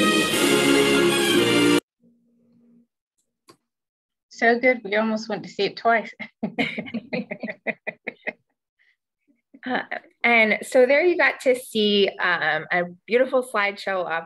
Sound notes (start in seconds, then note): 0.0 electronic music; 6.1 laughs